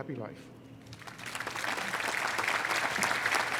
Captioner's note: applause